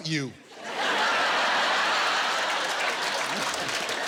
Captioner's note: laughter, applause